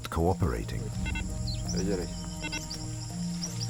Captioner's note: receiver beeping